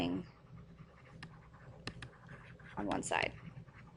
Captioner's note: stylus writing